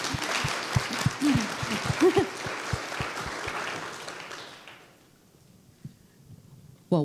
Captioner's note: applause